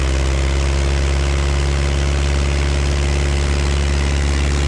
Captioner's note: airplane accelerates